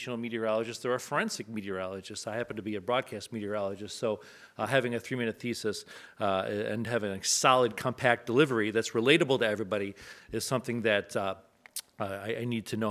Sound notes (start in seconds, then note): none